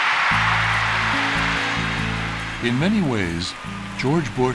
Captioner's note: cheering and applause